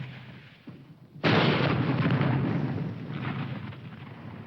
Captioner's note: bomb exploding